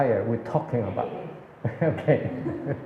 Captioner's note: laughs